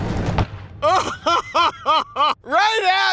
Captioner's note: laughing